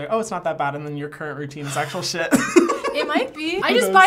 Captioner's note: laughing